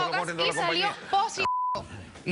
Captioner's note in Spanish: Bip